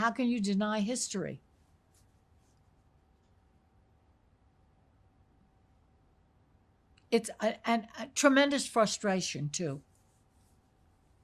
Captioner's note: pauses 6 seconds